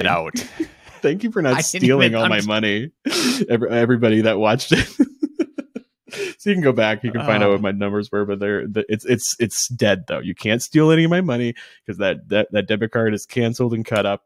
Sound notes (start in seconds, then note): 4.5 laughing